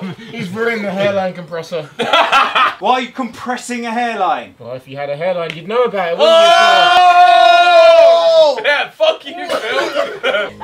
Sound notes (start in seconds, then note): 1.8 group laughing; 6.2 group oohing